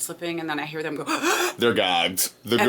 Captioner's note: gasping